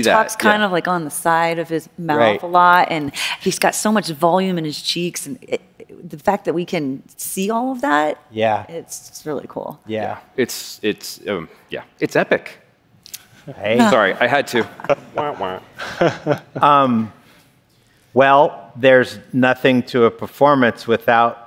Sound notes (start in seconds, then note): 14.3 laughter